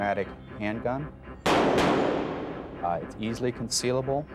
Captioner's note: gunfire popping